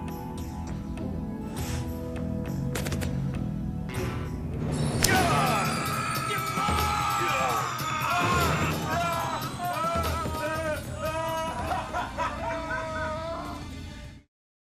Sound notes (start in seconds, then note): 4.4 loud intense music; 5.0 loud screaming; 10.8 man laughing